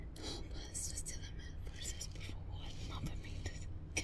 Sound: Janet speaks Spanish

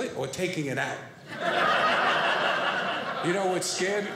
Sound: audience laughing

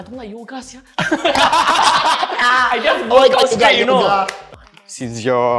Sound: laughs

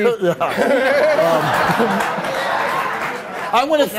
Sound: laughs

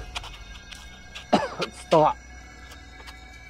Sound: coughs; ominous music; victim coughs

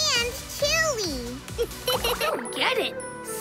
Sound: laughing

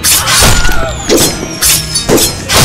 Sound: scream

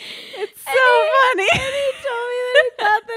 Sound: laughing

